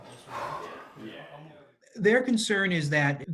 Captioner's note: sighs